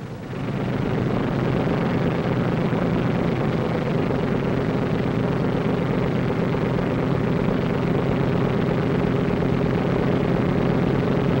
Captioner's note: sound of airplane engines